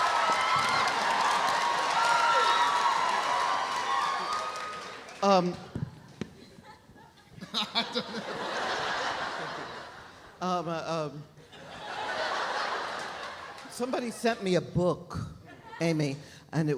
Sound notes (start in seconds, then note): 6.4 laughs; 11.3 audience laughs